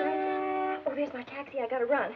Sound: horn honking

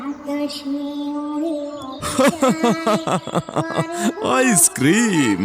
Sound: loud laughter

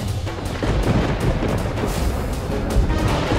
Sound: thundering

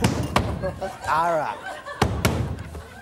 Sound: dough slams on counter; audience laughs

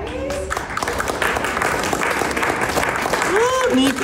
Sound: clapping

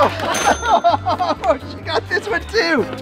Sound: laughter

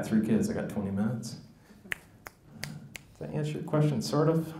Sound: snaps loudly

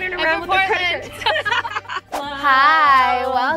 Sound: laughing

